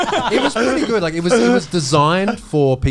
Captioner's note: all laughing